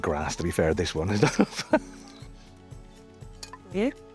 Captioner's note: chuckling